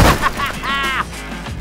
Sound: laughter

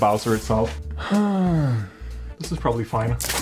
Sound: sighs

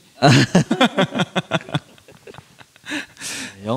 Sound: laughs

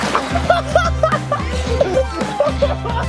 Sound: laughs

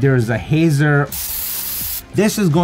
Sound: spraying noise

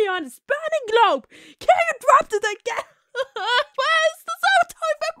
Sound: crying sounds

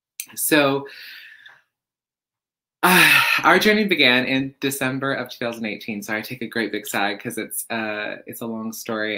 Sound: sighs

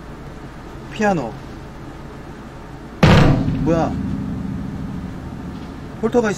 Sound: bang

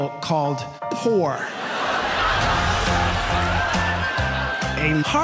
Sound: audience laughs

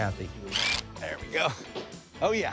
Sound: driller whirring

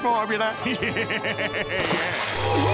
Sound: laughing

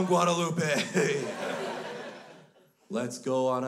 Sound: crowd laughs

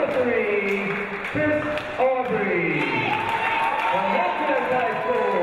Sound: crowd cheering

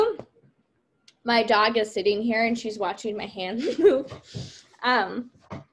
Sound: laughs

